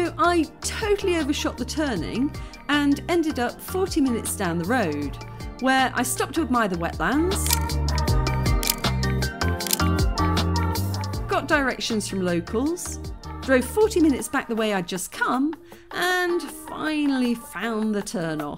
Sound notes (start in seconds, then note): 7.9 camera clicks